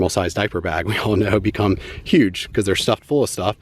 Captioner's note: chuckles